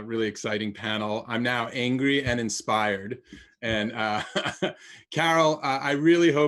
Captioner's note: laughs